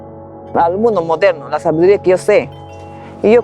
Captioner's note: speaking spanish